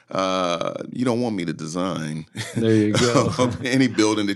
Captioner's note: laughing